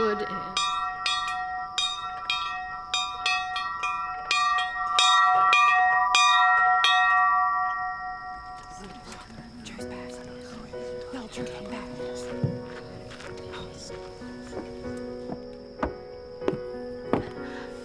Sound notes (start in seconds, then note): 0.0 bell ringing; 9.0 whispering